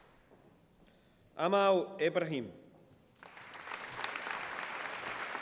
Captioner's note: applause